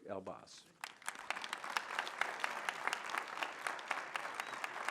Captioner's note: applause